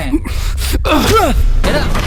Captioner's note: grunts